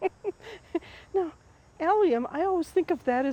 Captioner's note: laughs